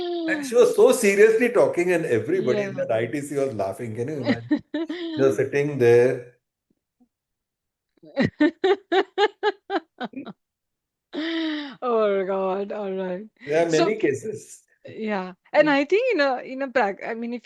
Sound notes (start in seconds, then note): 4.2 laughter; 6.2 gasps and laughter